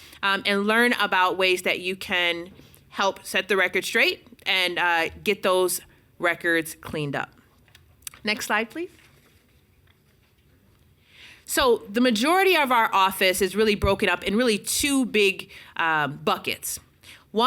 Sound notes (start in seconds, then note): none